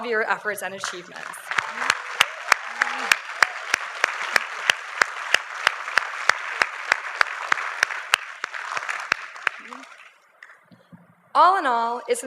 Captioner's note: applause